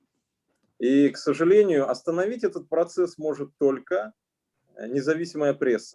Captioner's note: speaking Russian language